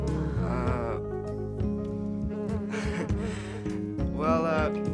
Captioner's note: laugh